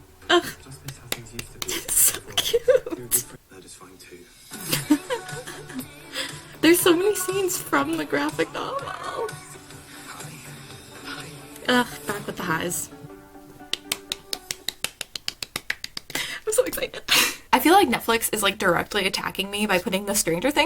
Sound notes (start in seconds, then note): 13.6 and she's clapping again